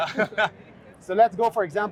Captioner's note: laughing